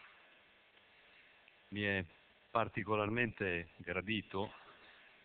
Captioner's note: Italian